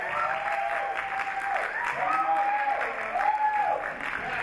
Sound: audience applaud

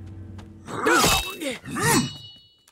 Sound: grunting

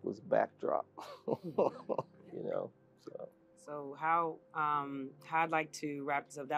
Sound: laugh

